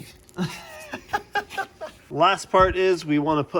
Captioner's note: laughing